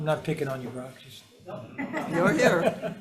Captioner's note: all laughing